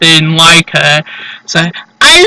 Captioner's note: huff